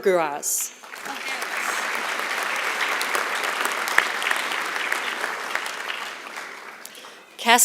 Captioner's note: applause